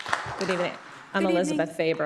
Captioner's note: applause